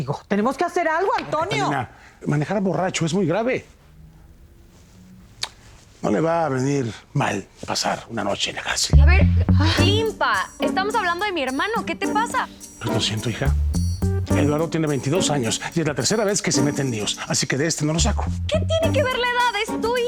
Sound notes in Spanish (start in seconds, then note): 5.4 Chasquea la lengua